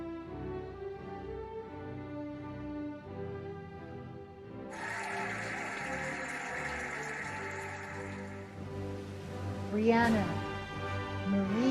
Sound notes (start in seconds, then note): 4.7 cheering and applauding